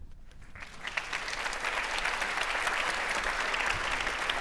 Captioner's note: audience applauding